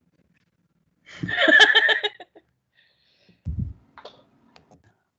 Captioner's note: laughing